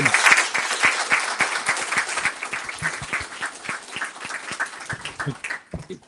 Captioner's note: applause